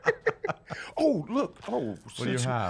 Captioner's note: laughs